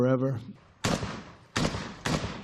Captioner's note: gunshots